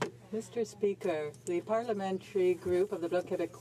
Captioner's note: speaking in french